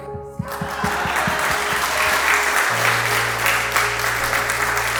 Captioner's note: audience applauds